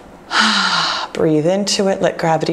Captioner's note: exhales